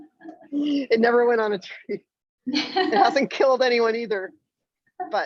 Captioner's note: laughs